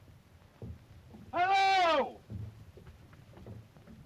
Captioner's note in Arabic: none